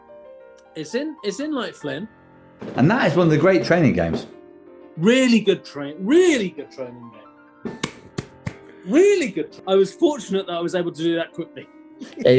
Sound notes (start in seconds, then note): 8.0 applauds; 12.0 giggling